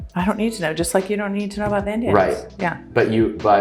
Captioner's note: voice muffled